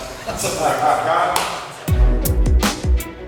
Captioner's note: laughing